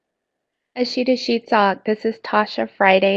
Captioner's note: speaking in foreign language